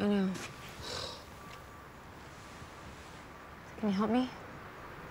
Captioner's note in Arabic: تنهد